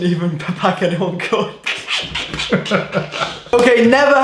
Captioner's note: laughing